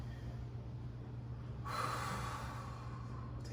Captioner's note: exhales